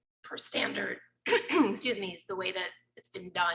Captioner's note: clears throat